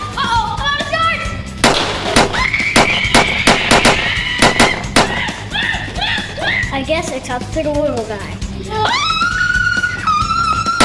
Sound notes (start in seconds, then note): 1.6 popping; 2.3 screaming; 10.3 popping; 10.3 screaming